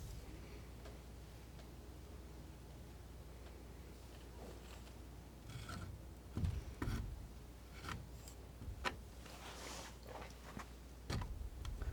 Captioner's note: scratching